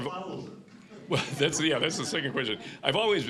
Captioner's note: laughing